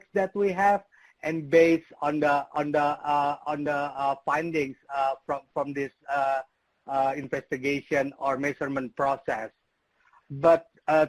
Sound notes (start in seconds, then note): none